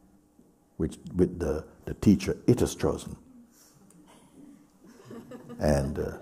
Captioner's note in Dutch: gelach